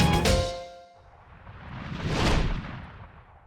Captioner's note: blues music; whooshing